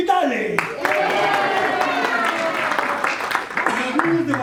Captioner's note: applause